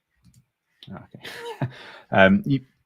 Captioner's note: laughs